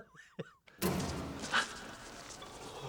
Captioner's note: gasps